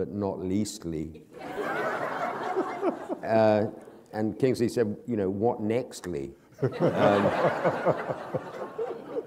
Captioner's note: laughter